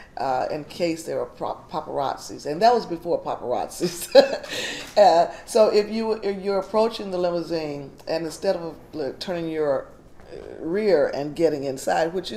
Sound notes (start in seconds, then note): 3.8 chuckles